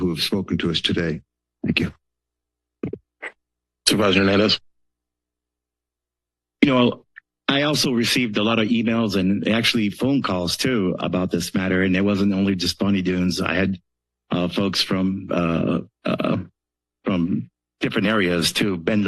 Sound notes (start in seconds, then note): 2.2 silence; 5.3 silence